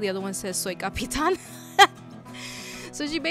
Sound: laughs

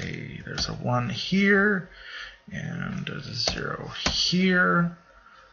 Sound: typing

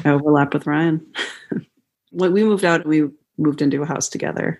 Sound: laughter

